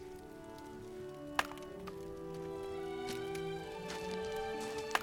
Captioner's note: axe chops loudly